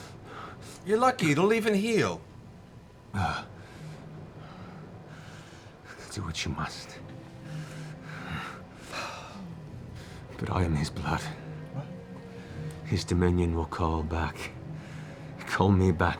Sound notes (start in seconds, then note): 3.2 panting